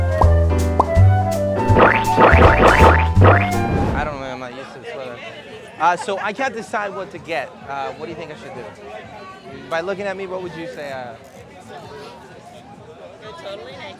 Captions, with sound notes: (popping) I don't know, I'm not used to this weather. So I can't decide what to get. What do you think I should do? By looking at me, what would you say...